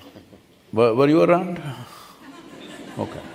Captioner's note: few laugh